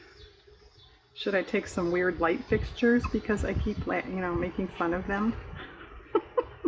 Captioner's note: laughs